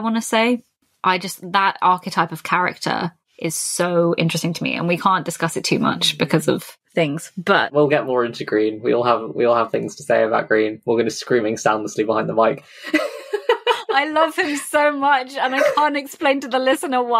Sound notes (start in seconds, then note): 12.3 laughs